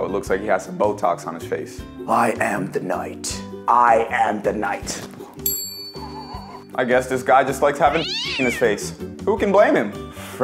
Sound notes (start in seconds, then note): 5.4 bell dinging; 7.8 cat screaming